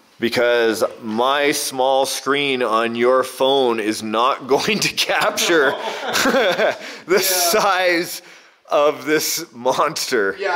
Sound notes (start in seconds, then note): 5.1 laughs